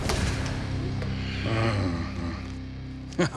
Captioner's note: grumbles; laughs